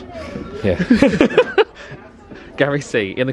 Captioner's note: both laugh